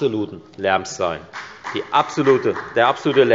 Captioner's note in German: Beifall bei der FDP